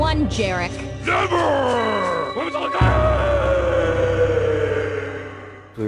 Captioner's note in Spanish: Grita